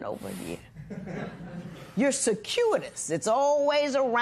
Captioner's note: light laughter